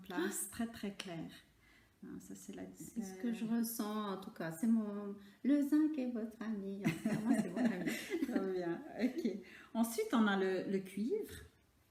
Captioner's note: laughs